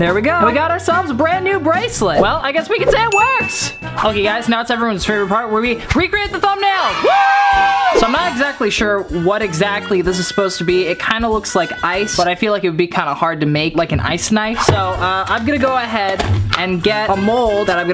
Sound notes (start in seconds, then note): 6.8 children and cheering